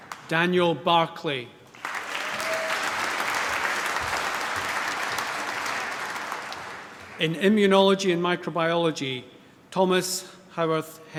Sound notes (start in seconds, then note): 1.7 applause